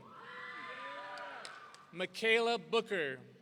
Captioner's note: audience cheering